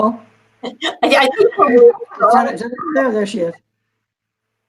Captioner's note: all chattering